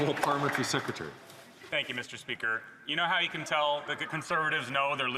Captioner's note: some Applause